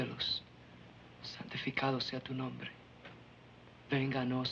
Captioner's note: praying in foreign language